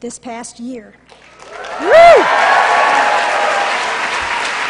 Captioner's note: applause